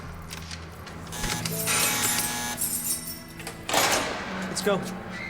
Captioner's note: door buzzes